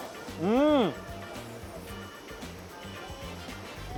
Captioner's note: slurps; moans